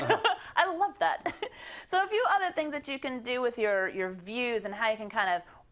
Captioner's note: laugh